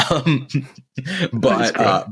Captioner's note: laughing